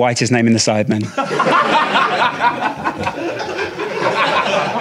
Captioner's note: audience laughing